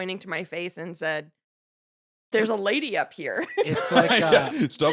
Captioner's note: laughs